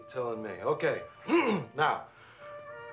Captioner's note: throat clears